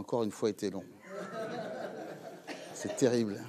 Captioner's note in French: Rires